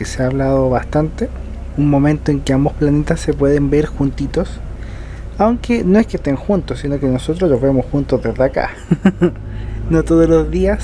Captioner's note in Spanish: risas